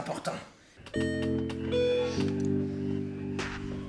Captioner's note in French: sonnette